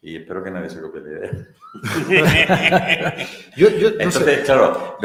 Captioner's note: laughs